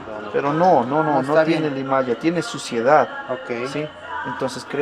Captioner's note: in Spanish